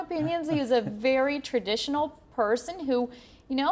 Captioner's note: laughter